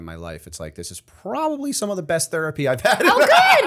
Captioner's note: chuckle